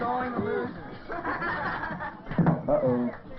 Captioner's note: obnoxious laughter